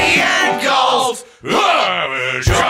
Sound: all grunt

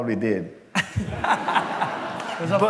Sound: laughter

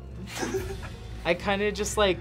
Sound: laughs

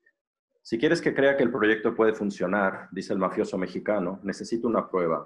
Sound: speaking foreign language

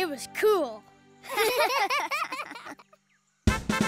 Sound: laughing; trumpet playing

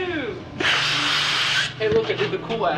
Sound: balloon inflating sound

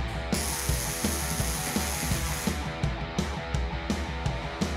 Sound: upbeat rock music continues; machine hissing

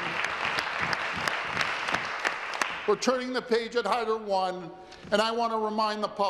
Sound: applause

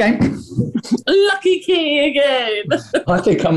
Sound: laughing

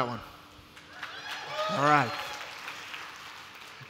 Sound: applause

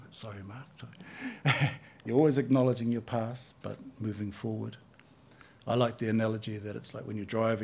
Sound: chuckles

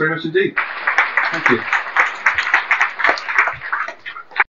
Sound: applause

